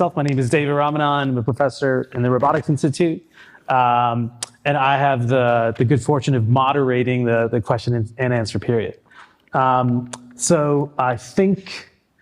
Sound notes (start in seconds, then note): none